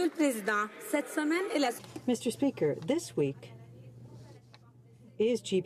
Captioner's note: some Applause